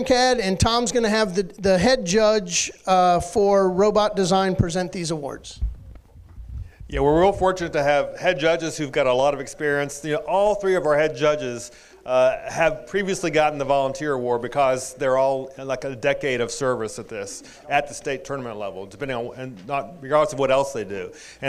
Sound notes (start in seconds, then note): none